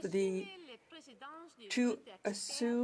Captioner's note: speaking French